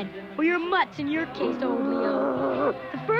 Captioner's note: growling